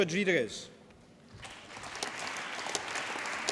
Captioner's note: applause